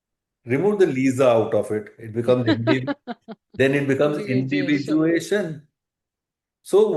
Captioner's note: laughter